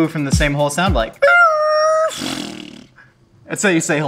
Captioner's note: rooster crow; lips farting